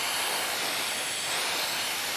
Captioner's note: machine whirring